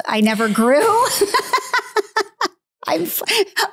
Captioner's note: Candace laughs